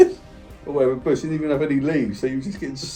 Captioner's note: both laughing